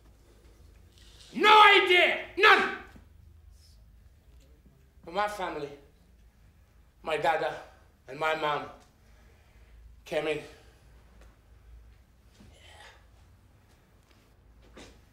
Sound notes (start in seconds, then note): none